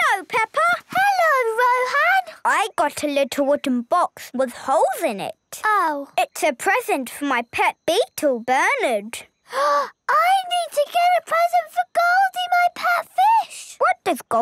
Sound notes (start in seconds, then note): 9.8 gasps